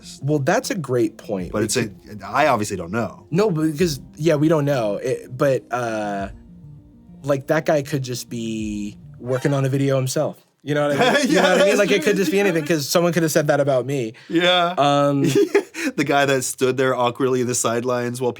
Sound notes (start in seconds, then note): 10.8 surprising music; 10.9 laughs